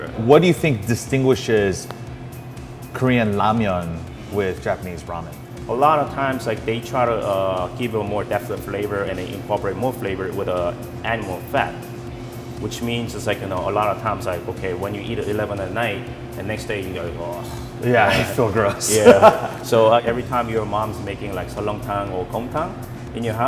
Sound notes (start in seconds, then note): 17.3 groans; 17.9 laughs